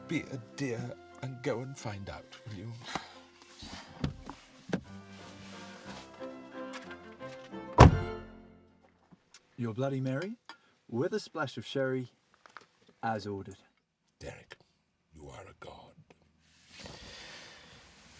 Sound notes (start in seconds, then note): 3.3 Tanya sighs; 3.3 gentle classical music